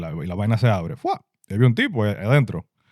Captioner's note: speaking In Foreign Language